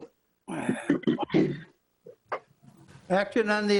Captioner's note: clears throat